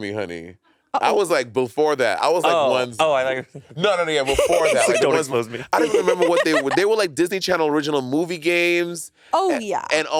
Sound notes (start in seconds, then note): 5.7 laughing